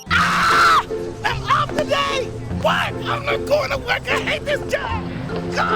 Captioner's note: yelling